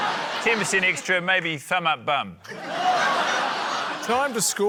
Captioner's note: laughter